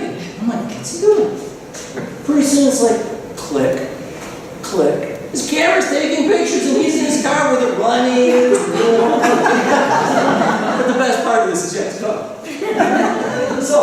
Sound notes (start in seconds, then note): 12.4 laughter